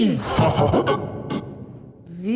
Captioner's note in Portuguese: risada maléfica interrompida